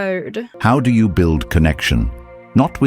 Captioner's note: AI Voice